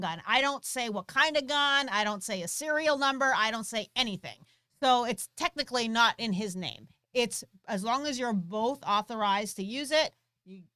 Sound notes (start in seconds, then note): none